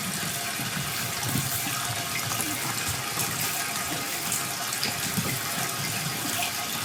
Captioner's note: water trickling continues